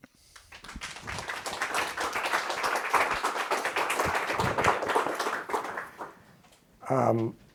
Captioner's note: applause